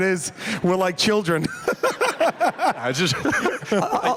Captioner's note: laughter